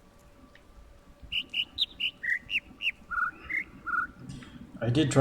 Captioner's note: overlapping birds chirping, ˥ ˥ ˩ ˧ ˩